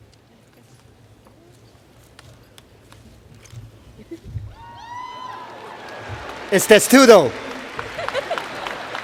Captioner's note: cheers and Applause